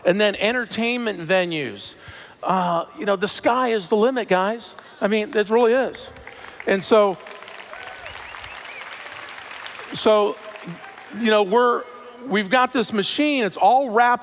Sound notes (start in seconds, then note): 7.0 cheers